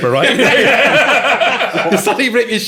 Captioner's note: all laughing